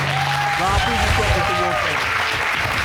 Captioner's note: audience cheering